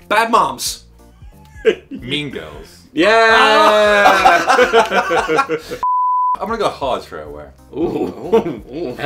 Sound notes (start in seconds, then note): 3.2 laughs